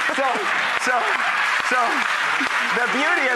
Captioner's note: applause